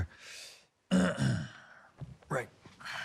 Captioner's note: clears Throat